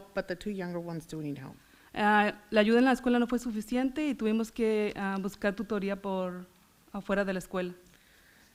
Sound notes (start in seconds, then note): 2.5 foreign language